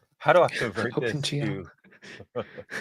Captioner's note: mocking; chuckles